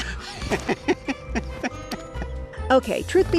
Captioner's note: laughing